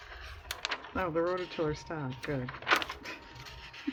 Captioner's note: laughs